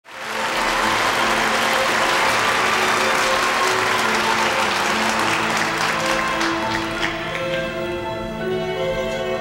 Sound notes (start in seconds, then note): 0.5 audience applauding; 2.4 gentle music playing